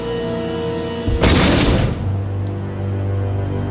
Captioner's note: loud thud; dramatic music playing